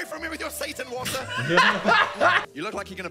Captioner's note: both laughing